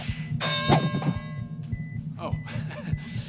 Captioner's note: beeping; ding!; laughs